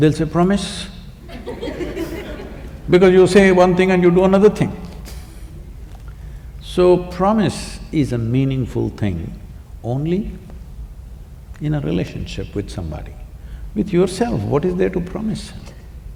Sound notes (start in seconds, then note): 1.2 laughter; 6.3 laughs